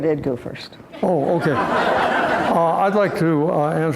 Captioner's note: laughter